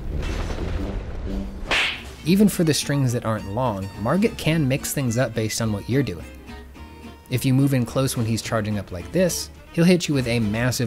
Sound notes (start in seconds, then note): 1.6 slap!